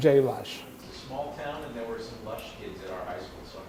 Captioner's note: voiceover